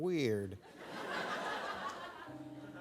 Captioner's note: audience laughs